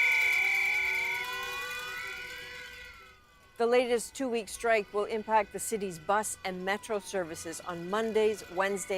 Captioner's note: horns